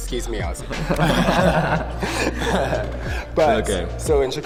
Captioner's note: both laughing